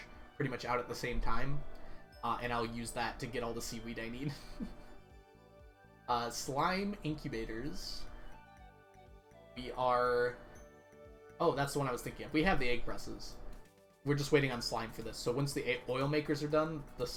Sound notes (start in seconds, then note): 4.3 chuckles